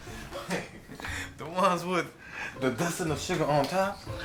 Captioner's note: chuckles